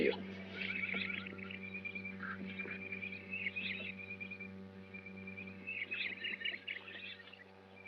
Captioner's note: forest ambient - birds chirping